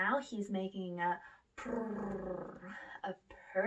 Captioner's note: purrs